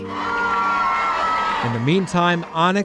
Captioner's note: crowd cheering